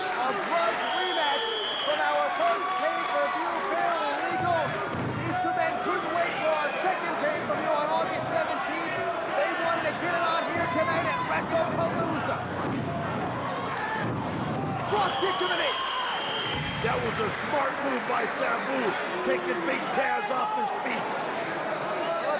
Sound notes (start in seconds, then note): 16.3 spectators cheering and applauding